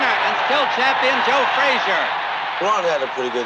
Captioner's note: crowd cheering continues